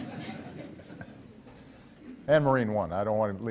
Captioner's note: laughs